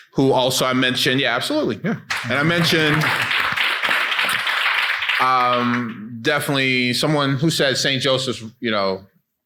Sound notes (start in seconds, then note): 2.1 audience clapping